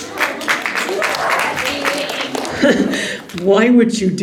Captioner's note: angsty Laugh